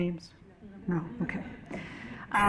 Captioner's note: laughing